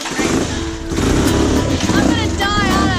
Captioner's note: motorcycle engine revs